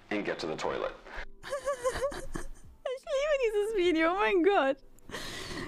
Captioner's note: laugh